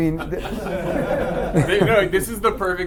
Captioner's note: laughter